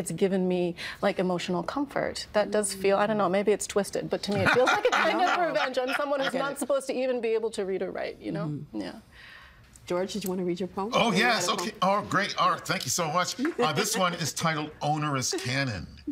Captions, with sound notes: It's given me, like, emotional comfort. That does feel-- I don't know, maybe it's twisted. (Laughing) But to me, it feels like a kind of revenge, as someone who is not supposed to even be able to read or write, you know? George, did you want to read your poem? Oh, yes! Okay, oh, great. Thank you so much. This one is titled "Onerous Canon."